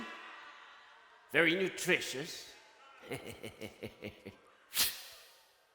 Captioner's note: laughs and inhales fly